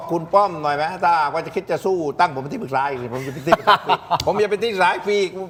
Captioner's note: laughter